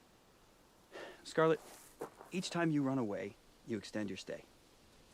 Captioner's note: sighs